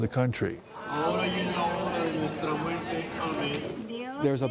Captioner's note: praying in foreign language